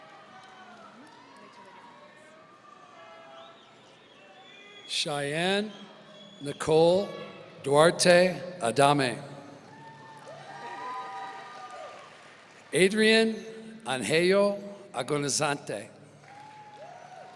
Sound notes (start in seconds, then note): 9.7 audience applauding and cheering